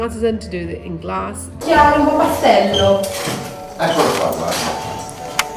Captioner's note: speaking in Italian